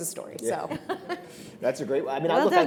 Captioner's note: chuckles